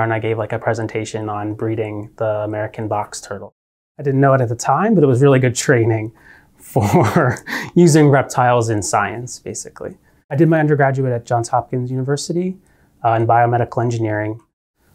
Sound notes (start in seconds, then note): 6.8 chuckling